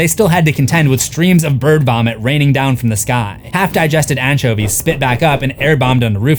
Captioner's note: bird vomit